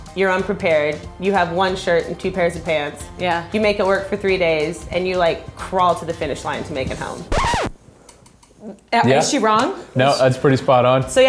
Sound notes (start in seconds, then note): 7.0 record scratch